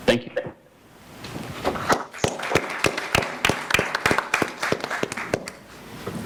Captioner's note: applause